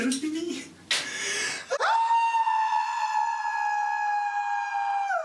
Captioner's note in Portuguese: respira fundo e grita